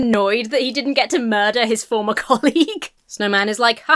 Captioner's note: laughs